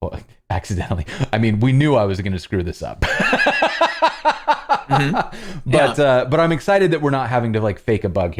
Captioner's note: laughter